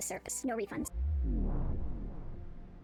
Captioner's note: vwoom